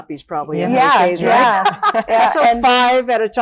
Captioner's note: laughing